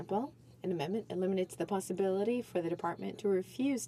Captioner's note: speaking French